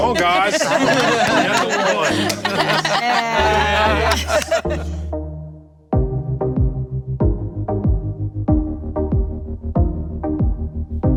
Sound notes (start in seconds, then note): 0.0 everyone laughing; 5.9 slow music